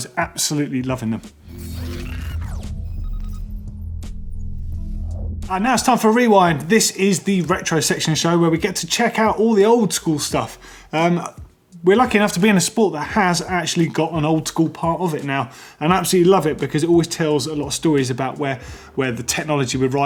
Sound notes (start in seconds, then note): 1.4 high tech beeping